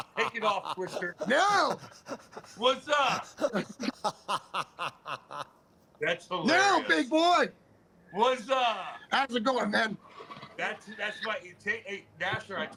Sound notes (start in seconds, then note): 3.4 laughter